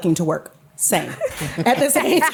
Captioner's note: laughter